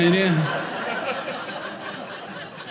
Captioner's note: audience laughing